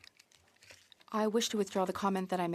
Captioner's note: speaking French